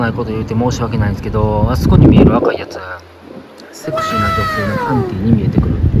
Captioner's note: scream